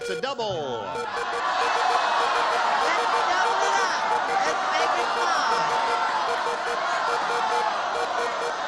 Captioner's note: cheering